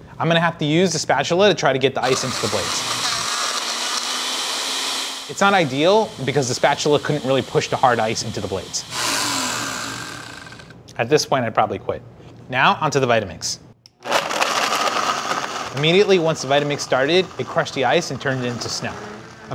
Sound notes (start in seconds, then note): 2.8 blender whirring; 9.6 blender stopping; 14.0 blender whirring